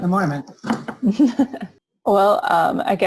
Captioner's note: chuckling